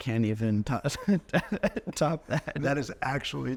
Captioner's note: chuckling